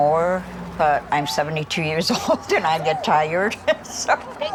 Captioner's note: chuckles